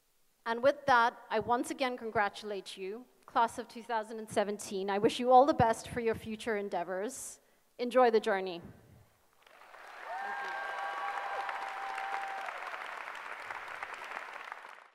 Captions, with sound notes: And with that, I once again congratulate you class of 2017. I wish you all the best for your future endeavors. Enjoy the journey. [APPLAUSE] Thank you.